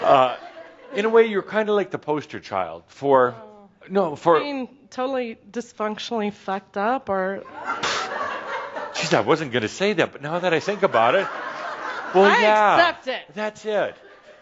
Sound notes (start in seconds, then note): 0.1 some chuckles; 8.8 some chuckles; 10.7 more laughter